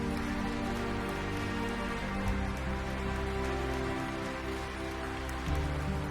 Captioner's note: crowd applauding; soaring music